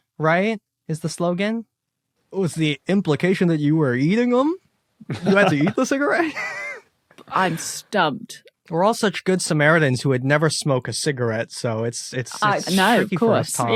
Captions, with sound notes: right, is the slogan? Was the implication that you were eating them? You had to eat the cigarette? (chuckles) (wheezes) I'm stumped. We're all such good samaritans who would never smoke a cigarette. So it's tricky for us, Tom. No, of course.